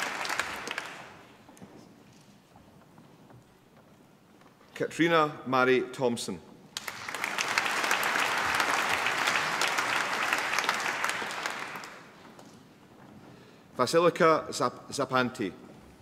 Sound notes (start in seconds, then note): 0.0 applause; 6.7 applause